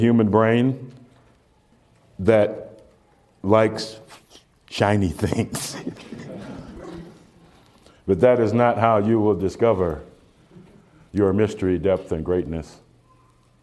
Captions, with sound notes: in the human brain, that likes shiny things. (Slight laughter) But that is not how you will discover your mystery depth and greatness,